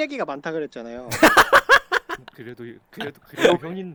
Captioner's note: laughing